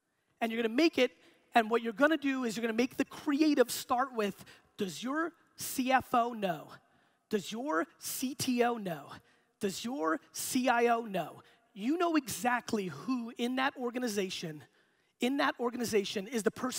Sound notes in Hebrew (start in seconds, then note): none